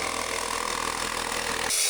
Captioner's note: drill whirring